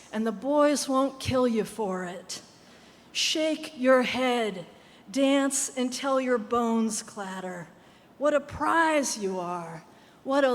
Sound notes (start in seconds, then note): none